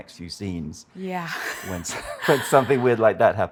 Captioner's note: laughs